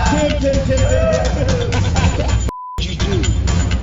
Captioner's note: laughing